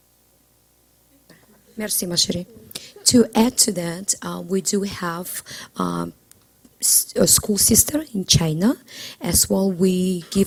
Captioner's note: foreign language